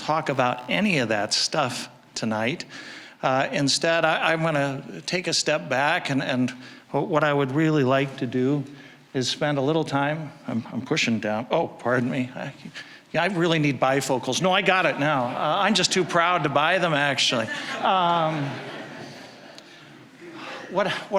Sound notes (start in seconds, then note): 14.9 audience chuckling; 17.2 audience laughing